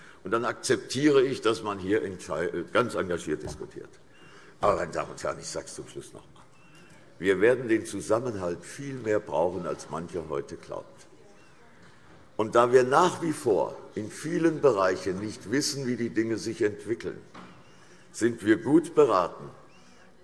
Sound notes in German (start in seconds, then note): none